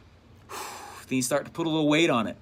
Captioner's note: relieved sigh